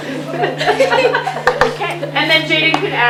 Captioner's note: laughter